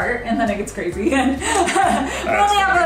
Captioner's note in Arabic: يضحك